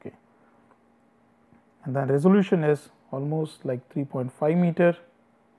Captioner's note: distortion